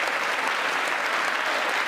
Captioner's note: applause